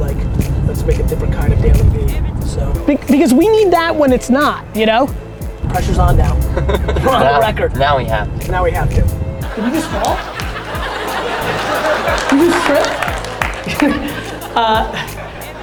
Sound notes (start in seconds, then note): 9.4 audience laughter